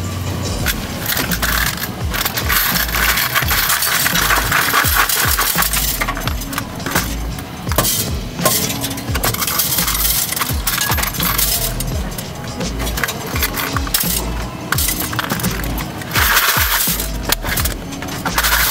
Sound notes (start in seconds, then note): 1.2 coins rattling; 1.2 upbeat music